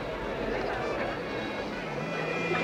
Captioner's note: indistinct chatter